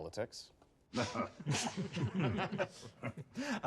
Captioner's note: chuckles